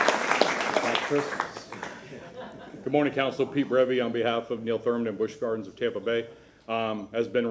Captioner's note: applause